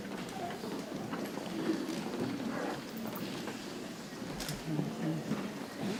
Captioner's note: people chattering softly